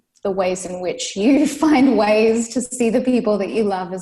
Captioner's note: laughs